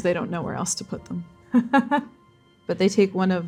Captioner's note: laughing